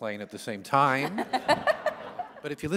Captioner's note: laughter